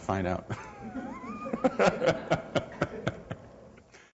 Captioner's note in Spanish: Risas